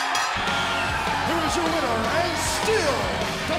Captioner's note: bell ringing; crowd cheering